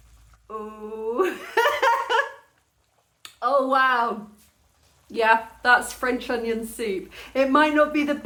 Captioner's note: laughing